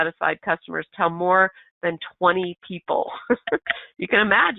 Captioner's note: laughs